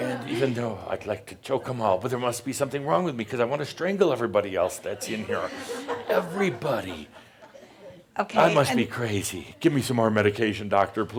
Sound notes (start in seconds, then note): 4.6 more chuckles